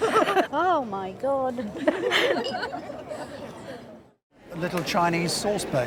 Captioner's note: crowd laughs